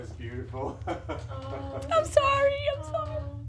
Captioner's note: laughing in background